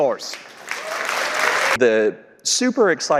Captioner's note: audience applauding